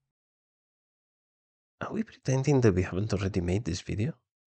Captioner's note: none